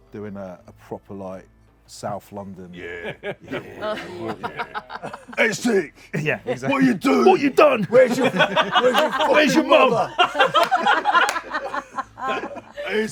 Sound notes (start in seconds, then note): 4.3 laughter; 5.7 gruff; 7.1 laughter